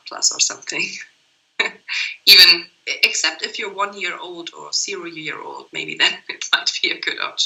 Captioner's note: laughts